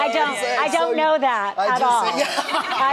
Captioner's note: laughing